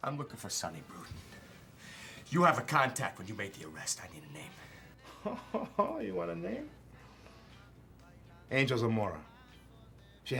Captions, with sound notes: - I'm looking for Sonny Bruton. You have a contact when you made the arrest. I need a name. - (chuckles sarcastically) You want a name? Angel Zamora.